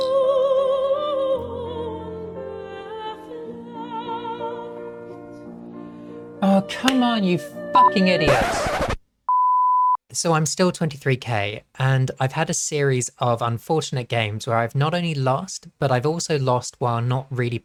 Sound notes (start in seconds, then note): 7.8 record scratch